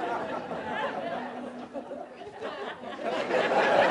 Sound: laughter

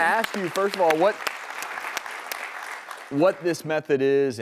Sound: clapping

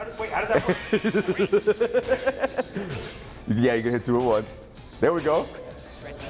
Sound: laugh

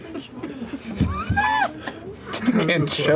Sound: laughter

